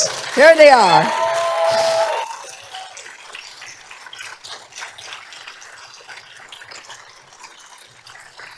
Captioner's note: applause